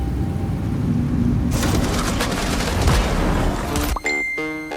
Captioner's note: gunfire